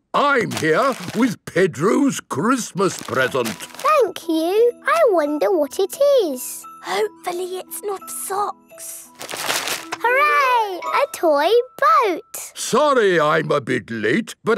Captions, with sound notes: I'm here with Pedro's Christmas present. - Thank you! I wonder what it is! - (whispering) Hopefully, it's not socks. - Hooray! A toy boat! - Sorry, I'm bit late.